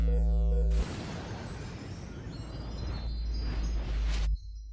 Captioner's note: chimes tinkle